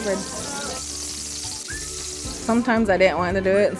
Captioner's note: grease sizzle